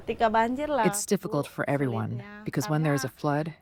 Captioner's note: through translator